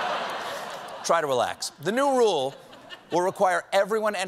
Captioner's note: laughter